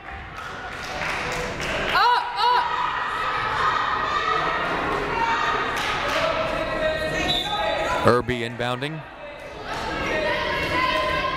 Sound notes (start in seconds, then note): 7.2 whistle blaring